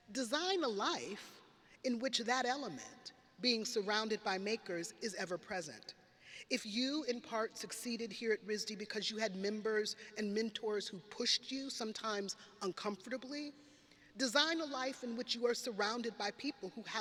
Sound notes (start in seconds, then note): none